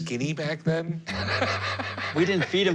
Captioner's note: laughter